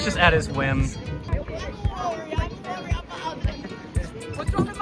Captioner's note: angry Portuguese